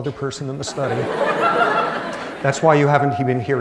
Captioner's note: laughter